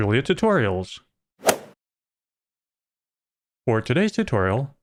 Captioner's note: golf ball hit sound